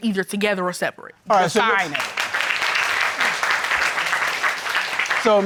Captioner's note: audience applauds